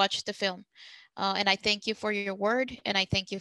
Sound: speaking Spanish

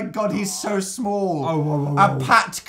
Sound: dog noises

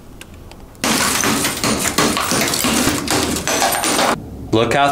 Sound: hammer smashes screen

